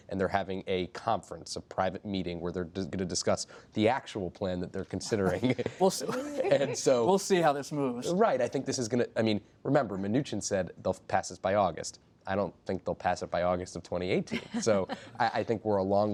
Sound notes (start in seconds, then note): 8.1 laughter; 14.3 laughter